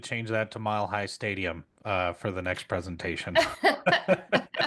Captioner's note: laughs